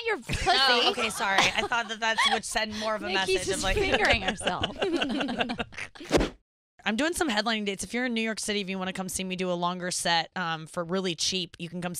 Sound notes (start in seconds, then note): 0.3 laughing; 5.6 air whooshes